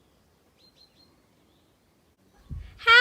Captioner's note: birdsong